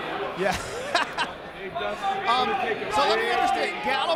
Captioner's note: laugh